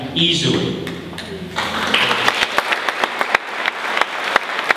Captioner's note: audience applauding